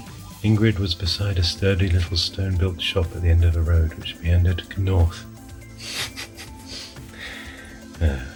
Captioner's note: giggles